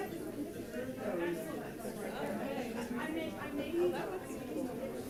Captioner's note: crowd chattering